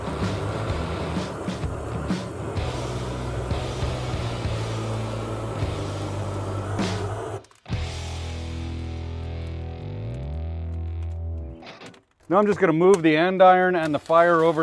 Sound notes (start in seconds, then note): 0.0 propane torch whooshing; 0.1 exciting music continues